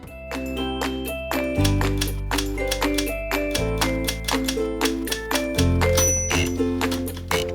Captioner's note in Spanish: sonido de teclas